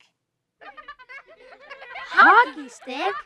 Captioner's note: chittering laughter